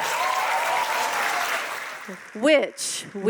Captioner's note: audience applauding